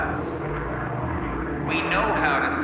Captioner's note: airplane roaring